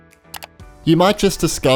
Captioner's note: clicks